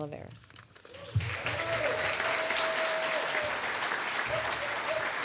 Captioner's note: applause